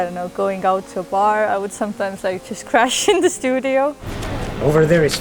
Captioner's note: laughs